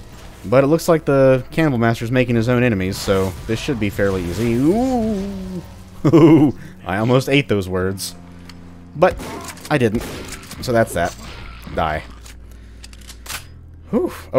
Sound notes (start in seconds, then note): 6.0 nervous chuckle; 9.1 stab; 12.2 mag tap